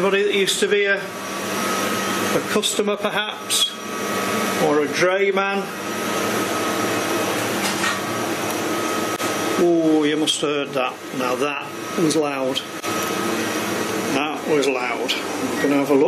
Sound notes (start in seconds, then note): 8.2 clattering